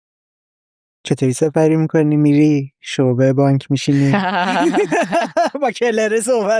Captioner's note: laughs